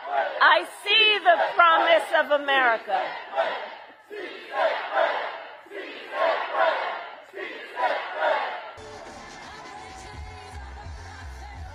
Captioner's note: Spanish